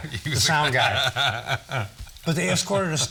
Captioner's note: all chuckling